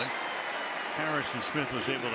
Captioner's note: whistle